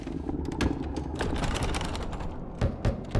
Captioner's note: door bangs; door latch jiggles; door knocking